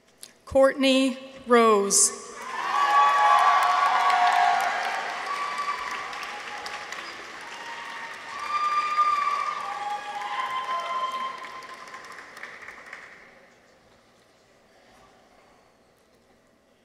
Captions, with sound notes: Courtney Rose. -(people cheer) -(audience applauds)